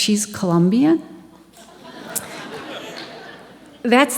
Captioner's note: audience Laughing